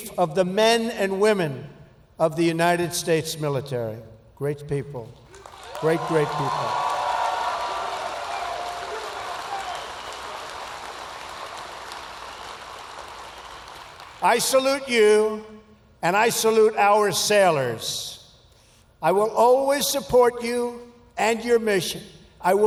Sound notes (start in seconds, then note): 5.2 applause